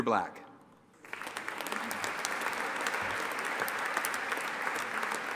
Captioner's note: audience applauding